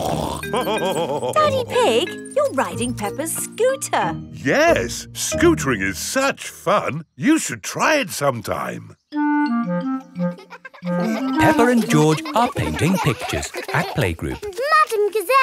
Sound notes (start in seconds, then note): 0.0 snorts and laughs; 10.1 children laughing